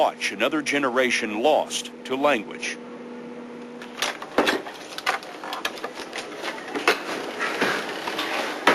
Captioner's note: boat engine sounds